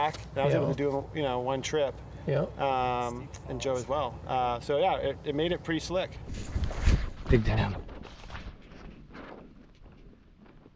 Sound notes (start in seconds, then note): 7.8 splashy footsteps